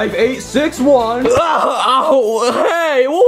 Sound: Bowser groaning

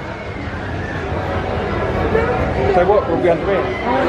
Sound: murmuring

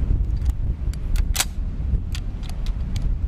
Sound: gun cocks

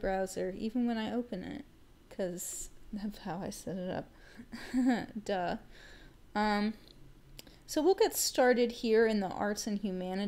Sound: laugh

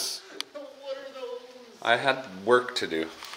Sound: voice fades

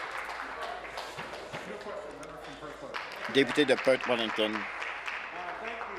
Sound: applause

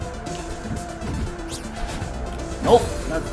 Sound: none

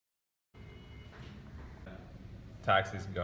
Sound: honking

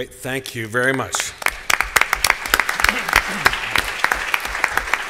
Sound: applause

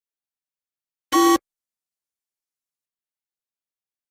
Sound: sound of game show buzz

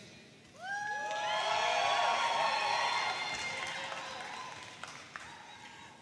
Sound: audience cheering and applauding

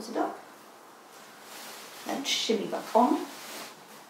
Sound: rustling

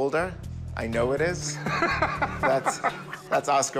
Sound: laughs

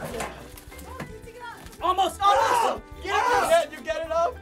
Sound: shouting

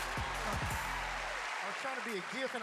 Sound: cheers and applause

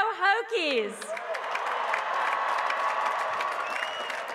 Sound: applause

